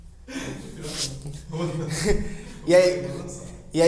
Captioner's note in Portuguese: risos